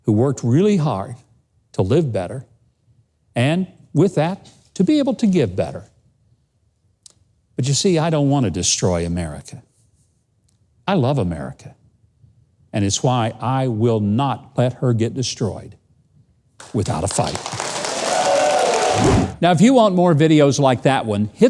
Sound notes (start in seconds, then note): 16.6 audience applauding